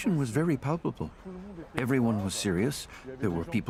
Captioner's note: speaking French